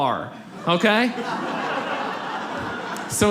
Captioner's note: audience laughs